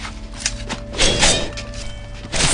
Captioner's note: metallic whooshing